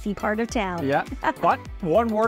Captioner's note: laughs